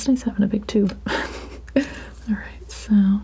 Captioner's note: laughing